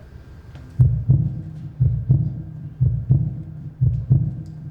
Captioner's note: heartbeat